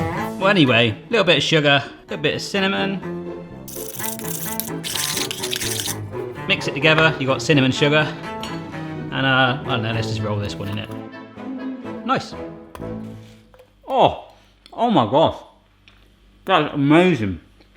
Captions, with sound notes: Well anyway, little bit of sugar, little bit of cinnamon, (whisking) mix it together, you've got cinnamon sugar. And, I don't know, let's just roll this one in it. Nice. Oh, oh my gosh, that is amazing.